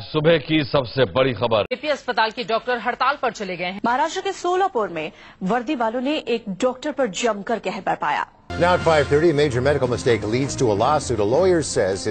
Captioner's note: news Channels Playing